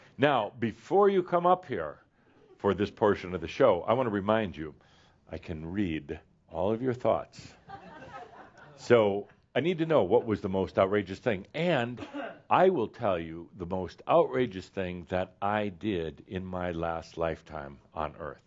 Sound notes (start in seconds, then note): 7.8 a few chuckles